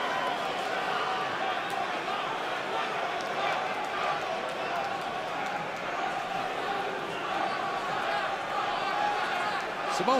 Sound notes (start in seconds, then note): 5.8 fans chanting